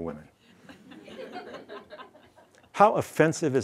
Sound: laughs

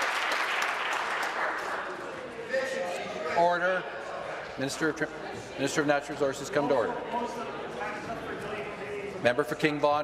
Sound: applause

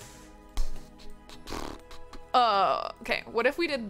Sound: exhales rhythmically

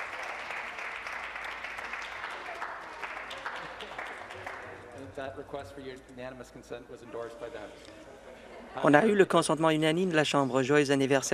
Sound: applause

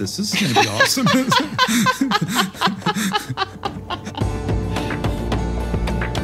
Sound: laugh

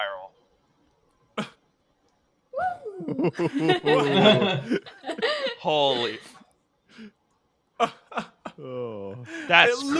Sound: laughter

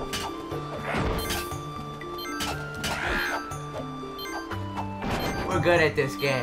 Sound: beep beep

